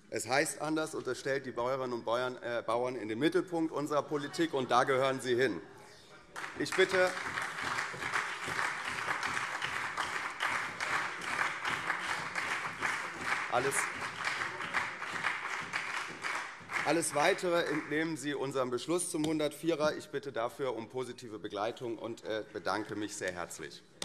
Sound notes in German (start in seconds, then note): 6.3 Beifall CDU und SPD